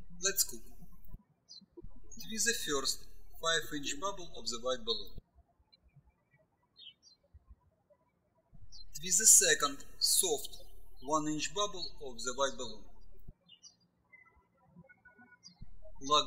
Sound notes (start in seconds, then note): 6.0 birds chirping